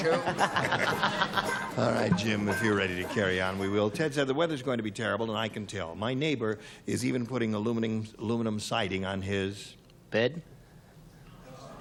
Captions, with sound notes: - You're wearing something Rembrandt gave away in 1902. [laughter] - All right, Jim. If you're ready to carry on, we will. Ted said, the weather's going to be terrible, and I can tell. My neighbor is even putting aluminum siding on his--